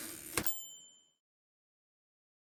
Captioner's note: typewriter dings